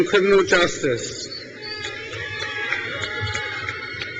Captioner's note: crowd cheers